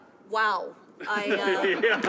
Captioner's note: some applause